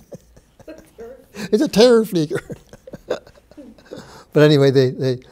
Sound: laughs

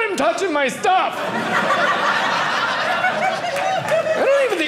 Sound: audience laughing

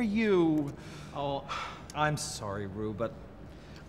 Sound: Rue sighs

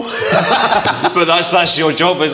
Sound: everyone laughs

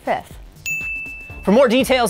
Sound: ding

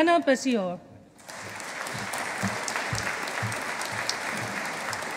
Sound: audience applauding

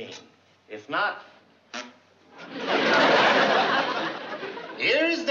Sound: imitates fart

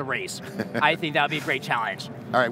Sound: chuckles

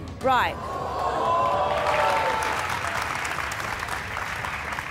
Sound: audience gasps, applauds

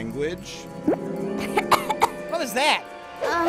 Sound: coughing

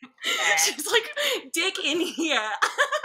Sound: both laughing

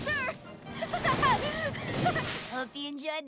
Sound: laughing

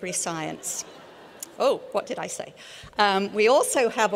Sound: laughter

